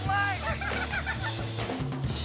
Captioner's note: giggling together